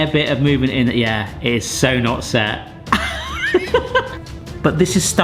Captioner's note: laughs